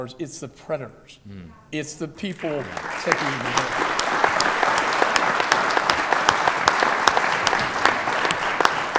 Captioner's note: applause